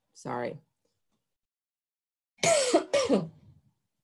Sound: coughs

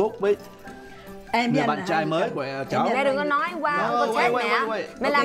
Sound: speaking foreign language

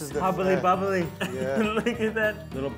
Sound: laughing

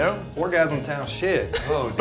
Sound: Zach laughs

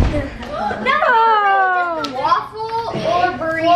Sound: explosion booms; exclaims

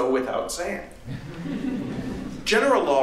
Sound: laughter

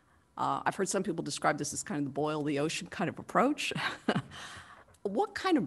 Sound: laughter

